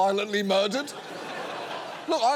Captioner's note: studio audience laughing